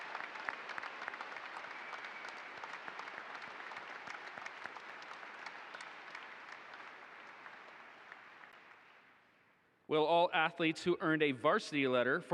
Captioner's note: applause